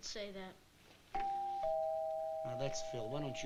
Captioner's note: doorbell ringing